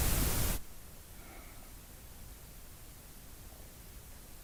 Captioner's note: sigh